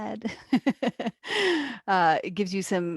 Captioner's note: laughs